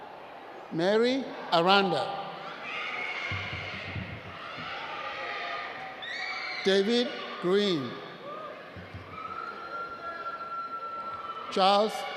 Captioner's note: cheering